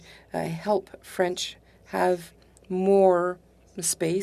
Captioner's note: speaking French